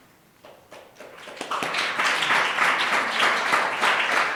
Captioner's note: applause